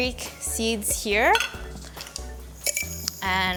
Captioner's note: lid clinks